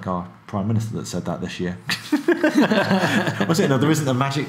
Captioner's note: laughing